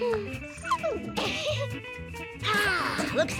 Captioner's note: Tabitha giggles